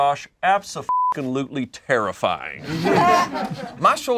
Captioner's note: beep